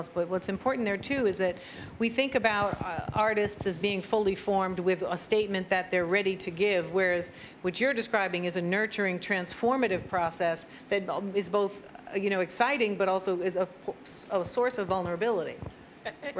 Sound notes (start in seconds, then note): none